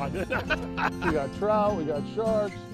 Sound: laughter

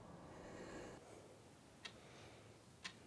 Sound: clock ticking

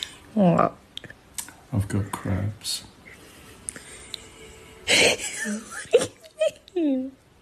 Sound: MC wheezing

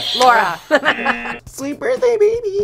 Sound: buzzer rings; laughs; bell rings

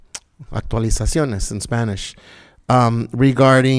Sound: speaking in Spanish

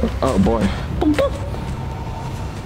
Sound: more scanning sounds

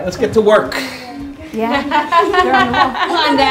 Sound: laughter

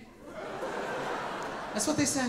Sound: audience laughing

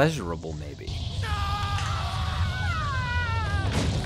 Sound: screams

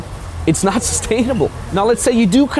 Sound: chuckles

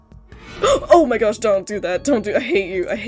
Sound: gasp

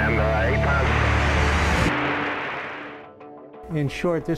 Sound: static on microphone

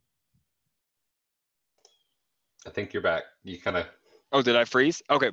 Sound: audio cut out

